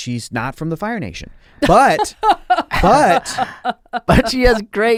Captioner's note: laughs